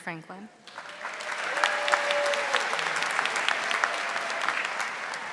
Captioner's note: audience applauding